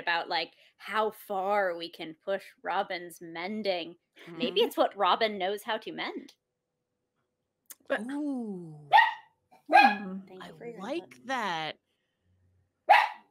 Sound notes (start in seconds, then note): 9.7 dog barks